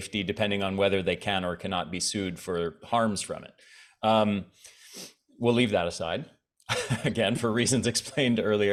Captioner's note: chuckles